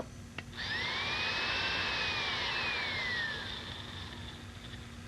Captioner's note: saw whirring